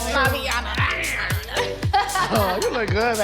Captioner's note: growls and laughs